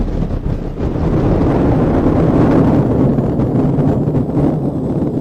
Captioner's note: static and Hi-Fi noise